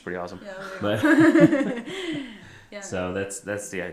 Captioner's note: laughing